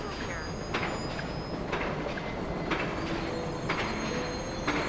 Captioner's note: machinery clacking